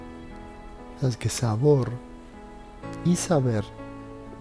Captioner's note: in Spanish